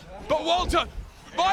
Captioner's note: none